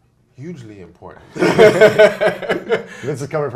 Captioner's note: laughs